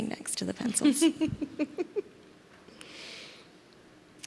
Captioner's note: laughs